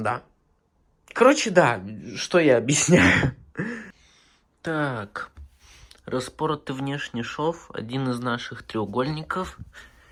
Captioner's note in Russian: смех